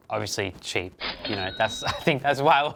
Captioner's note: money counter chings